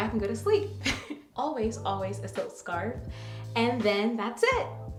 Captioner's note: chuckles